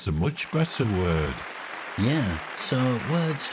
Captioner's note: hands clapping